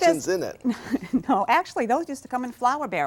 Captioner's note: chuckles